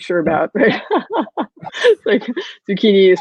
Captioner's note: laughing